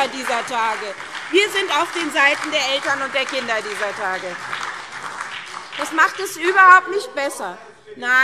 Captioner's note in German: Beifall SPD und DIE LINKE - Zurufe BÜNDNIS 90/DIE GRÜNEN